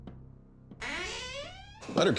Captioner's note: door creaks open